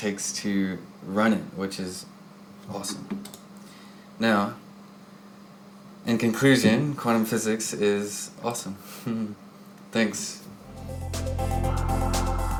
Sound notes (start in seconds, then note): 9.0 chuckles